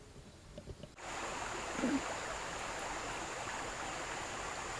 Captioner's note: water babbling